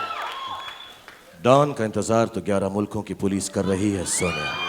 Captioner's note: speaks in Hindi